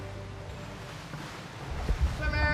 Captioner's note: water splashing